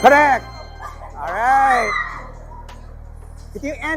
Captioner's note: squeals